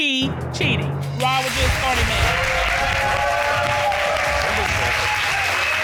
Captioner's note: audience applauding, cheering